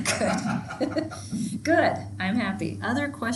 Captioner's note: chuckles; laughing